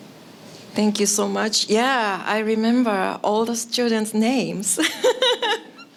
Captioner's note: laughing